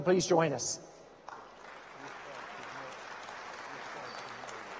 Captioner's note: audience applauds